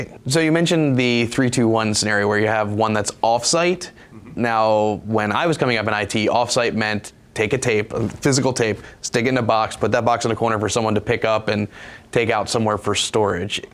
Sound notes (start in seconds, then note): none